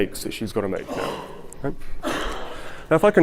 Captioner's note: audience gasps